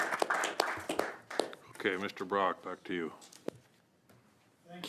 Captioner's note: some applause